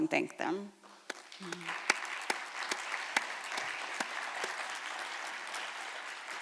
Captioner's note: applause